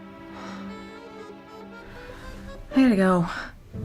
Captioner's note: sighs